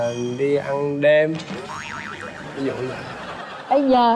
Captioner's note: laughing